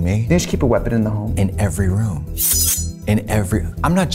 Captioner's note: blades swiping